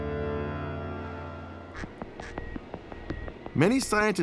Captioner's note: penguin squawking